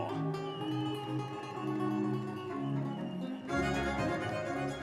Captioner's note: audience members cheering